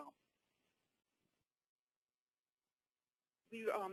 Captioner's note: long pause